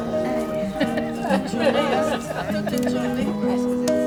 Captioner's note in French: rires